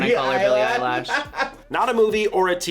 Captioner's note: laughs